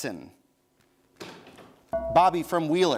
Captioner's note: bell rings